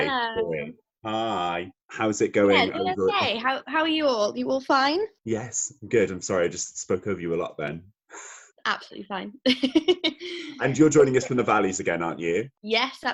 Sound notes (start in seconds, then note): 9.4 she laughs